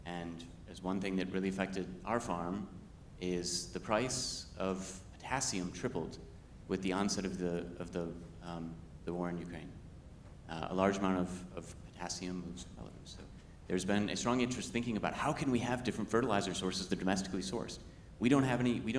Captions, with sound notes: And as, one thing that really affected our farm is the price of potassium tripled with the onset of the war in Ukraine. A large amount of potassium moves (speaks faintly). So there's been a strong interest in thinking about how can we have different fertilizer sources to domestically source.